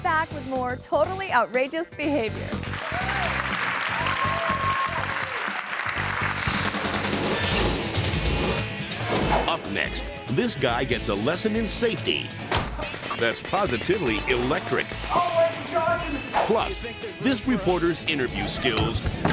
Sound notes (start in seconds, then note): 2.5 audience cheers and claps; 3.5 upbeat music; 6.3 image whooshes